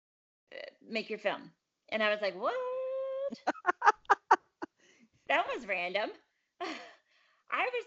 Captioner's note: laughs